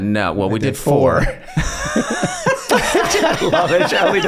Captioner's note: all laughing